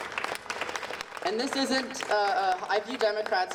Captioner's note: audience applauding